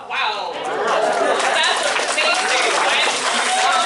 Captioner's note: cheering and applause